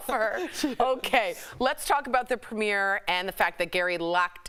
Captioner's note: laughter